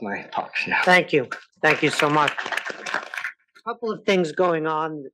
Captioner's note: applause